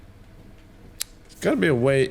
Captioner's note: smack